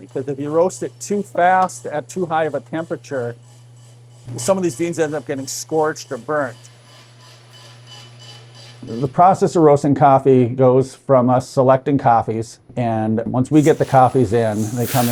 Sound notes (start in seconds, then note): 7.0 coffee beans churning